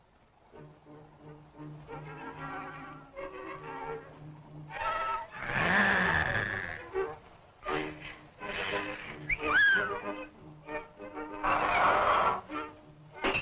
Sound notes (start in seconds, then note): 5.3 growls; 9.2 whistles